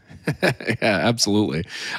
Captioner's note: chuckles